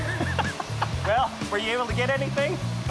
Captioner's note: laughing